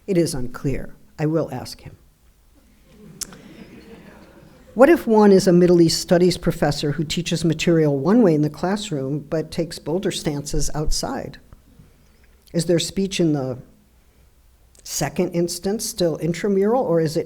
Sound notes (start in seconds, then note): 2.7 audience laughing